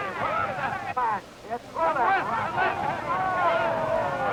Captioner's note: crowd shouting